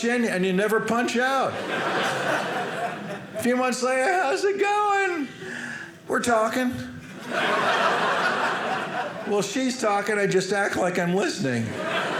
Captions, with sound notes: And you never punch out. A few months later, how's it going? "We're talking. (audience laughing) "Well, she's talking. "I just act like I'm listening."